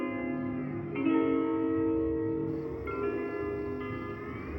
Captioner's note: insects chirping